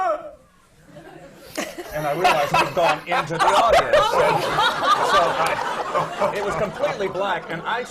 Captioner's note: laughter